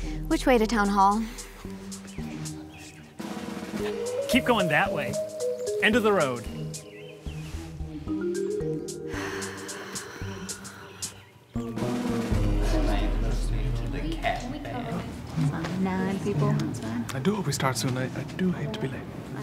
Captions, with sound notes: Which way to town hall? - Keep going that way, end of the road. (sighing) (people chatting) - There's like nine people outside. - I do hope we start soon, I do hate to be late.